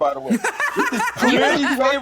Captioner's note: laughing